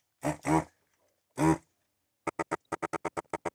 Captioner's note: farting